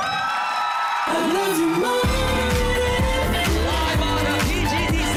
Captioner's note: crowd screaming, applauding